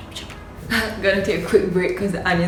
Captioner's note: laughs